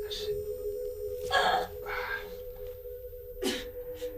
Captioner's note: groaning; crying